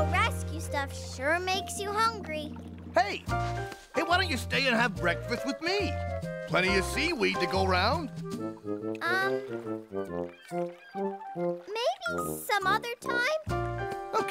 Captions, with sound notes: Plenty of seaweed to go 'round. Um, maybe some other time? Okay, more for me. (Slurping)